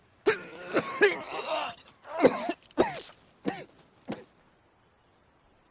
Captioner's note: vomiting